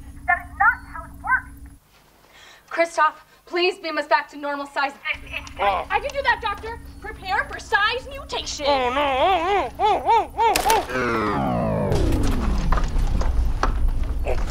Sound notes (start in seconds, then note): 9.1 grunts and objects in French; 10.8 rumble; 11.0 powering down sound